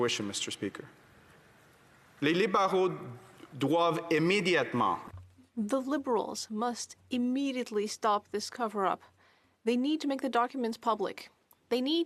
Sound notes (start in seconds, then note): 7.8 speaking French